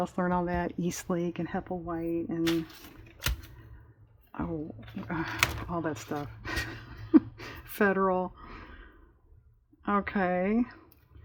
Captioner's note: laughs